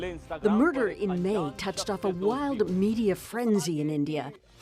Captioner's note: speaking alternate language